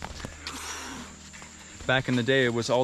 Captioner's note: breathes out heavily